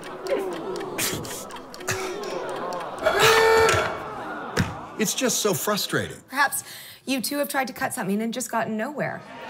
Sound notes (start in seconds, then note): 2.4 horn sounds